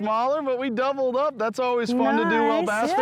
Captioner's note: giggles